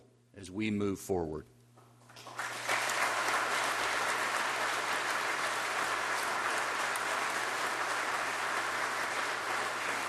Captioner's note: applause